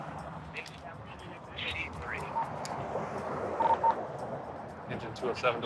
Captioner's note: voices on radio